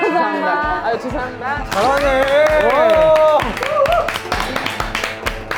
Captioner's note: cheers